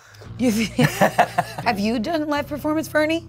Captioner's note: laughs